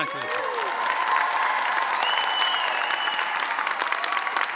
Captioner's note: audience cheering